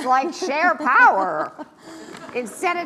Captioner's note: laughs